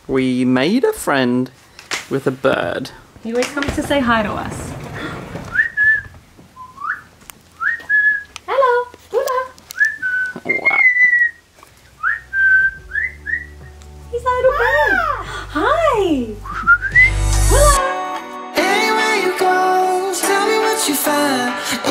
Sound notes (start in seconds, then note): 5.9 whistling; 10.1 bird whistles